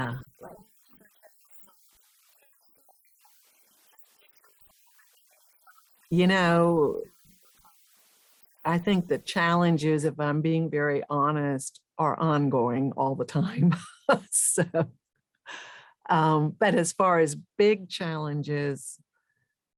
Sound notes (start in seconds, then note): 13.6 chuckles